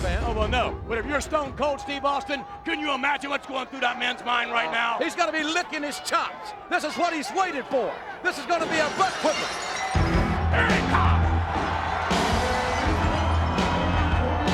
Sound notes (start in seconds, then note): 8.6 glass shattering; 12.8 lively music